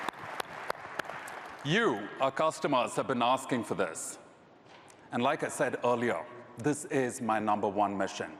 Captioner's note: applause